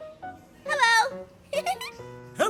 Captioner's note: laughs